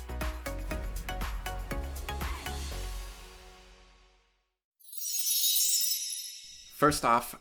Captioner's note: chime sound